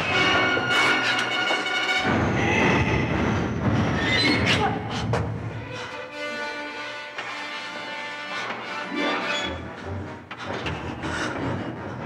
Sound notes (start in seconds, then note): 2.4 Donald growling; 2.4 dramatic music